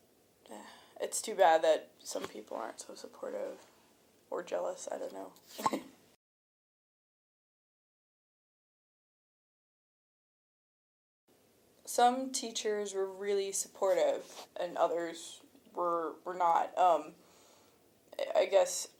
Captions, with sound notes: yeah. [Exhale] It's too bad, that some people aren't so supportive. Or jealous, I don't know. [Chuckles] Some teachers were really supportive, and others, were...were not um... I guess,